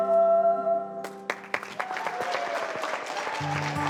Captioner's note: cheers, applause; guitar playing